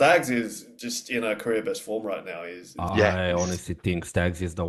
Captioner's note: laughs